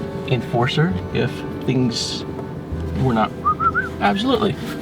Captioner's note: whistles